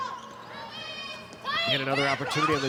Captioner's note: players shouting indistinctly